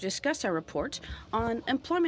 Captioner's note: speaking French